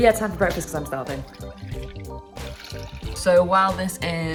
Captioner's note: milk splashes